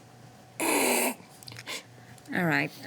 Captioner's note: laughing